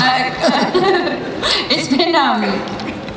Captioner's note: laughs